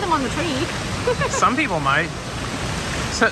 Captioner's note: laughs